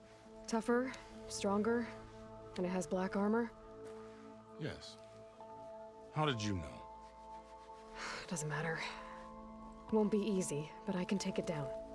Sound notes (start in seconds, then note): 7.8 sigh